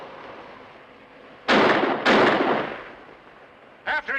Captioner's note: tires screeching; gun firing